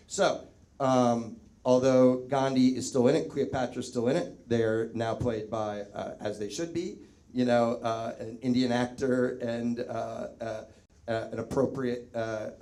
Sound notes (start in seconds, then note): none